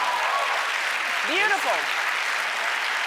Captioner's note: crowd cheering and applauding